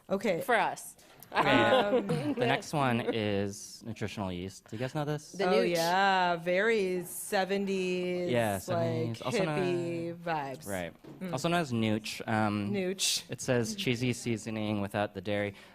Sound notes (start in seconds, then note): 1.4 laughs